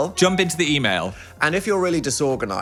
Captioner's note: phone dings